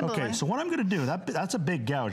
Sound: laughter

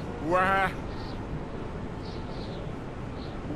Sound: wind whistling

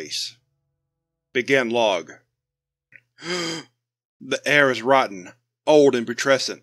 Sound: gasp

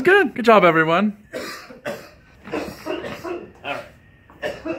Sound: soft coughing

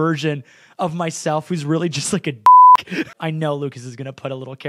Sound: beep

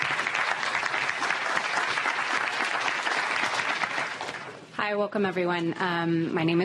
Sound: applause

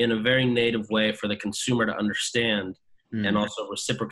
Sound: hums

